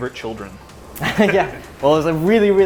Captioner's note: laughing